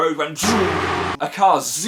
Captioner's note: zoooooooom